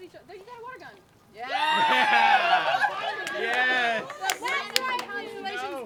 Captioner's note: audience cheers